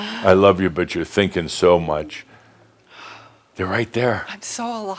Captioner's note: she sighs deeply